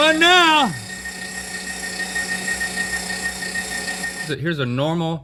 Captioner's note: meat grinder sounds